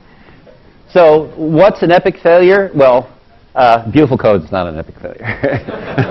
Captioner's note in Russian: Смеется